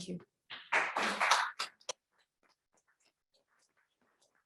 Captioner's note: applause